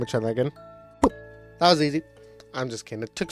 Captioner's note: pop